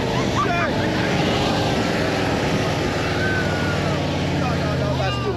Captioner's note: screams